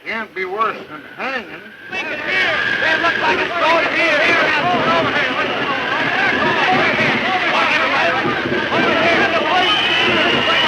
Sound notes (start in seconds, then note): 1.9 men shouting; 2.4 wind gusting